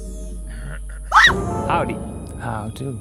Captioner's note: Madeleine screams